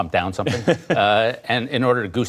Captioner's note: laughter